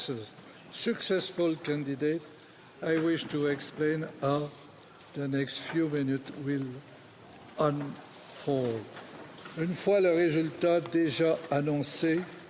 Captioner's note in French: voix de l'interprète